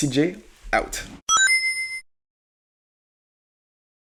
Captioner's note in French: cha-ching